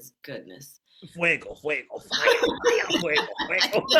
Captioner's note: speaking Spanish; both laughing